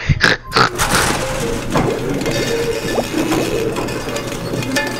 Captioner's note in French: bruits de bouillonnement et de bille qui roule